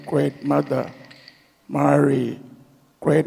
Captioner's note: clap sticks rattle